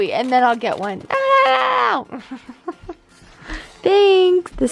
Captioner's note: chuckles